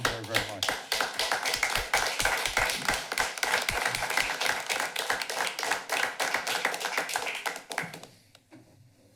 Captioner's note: applause